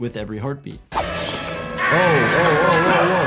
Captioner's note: eerie music; Miles Upshur screaming